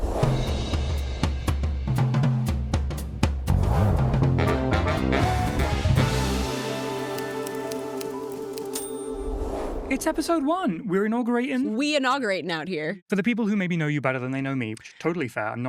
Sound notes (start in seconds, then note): 0.2 upbeat music; 4.5 keyboard clicking